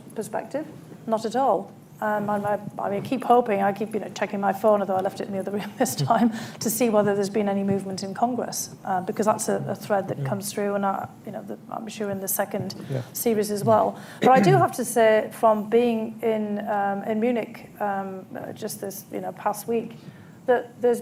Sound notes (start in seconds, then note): 5.8 laughs